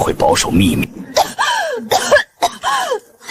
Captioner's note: cough, cough, cough